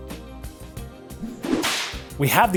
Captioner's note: whip sound